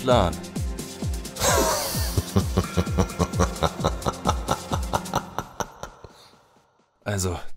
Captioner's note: evil laughter